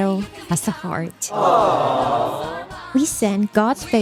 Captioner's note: aaaaaawwh